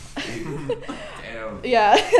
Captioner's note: laughs